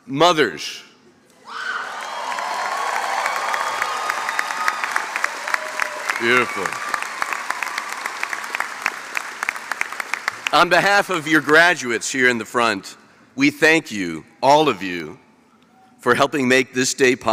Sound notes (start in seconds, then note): 1.9 applause